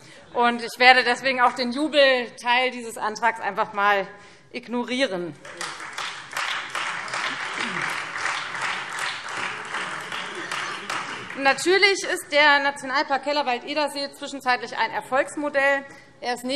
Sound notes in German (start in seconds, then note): 5.4 Beifall Freie Demokraten und vereinzelt SPD